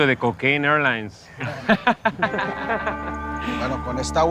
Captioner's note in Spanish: Risas